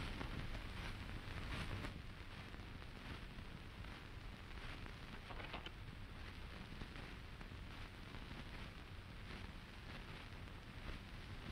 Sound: whispering

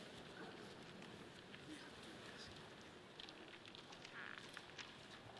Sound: none

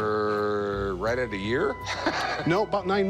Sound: laughs

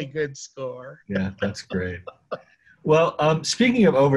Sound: laughing

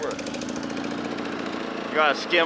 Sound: engine roars

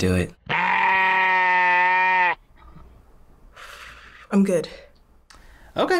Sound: exhales shakily

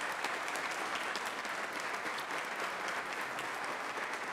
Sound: audience applauds

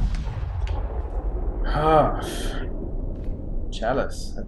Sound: sighing

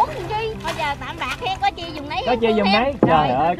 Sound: another woman's voice

